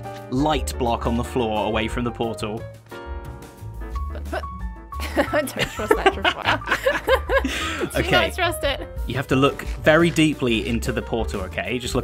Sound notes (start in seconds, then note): 5.0 both laugh